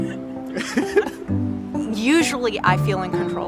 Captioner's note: companion laughs